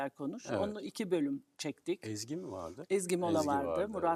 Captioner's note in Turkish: homurdanır